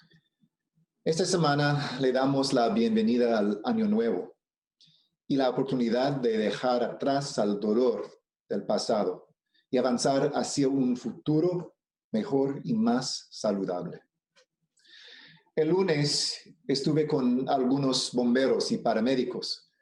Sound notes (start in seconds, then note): 0.0 remarks in spanish; 0.6 speaking spanish